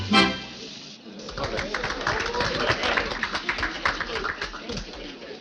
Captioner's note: audience clapping